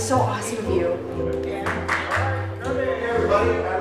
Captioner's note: someone claps one's hands